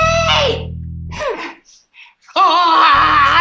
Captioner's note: exhales